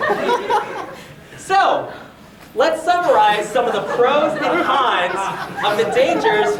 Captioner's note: audience laughing